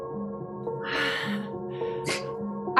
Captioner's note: breath